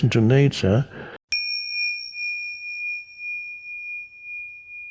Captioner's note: soft bell resonating